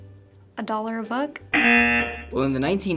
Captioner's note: rejection buzzer